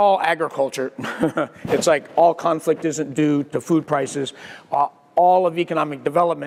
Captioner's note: laugh